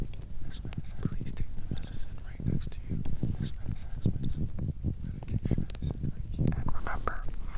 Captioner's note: medicinal whispers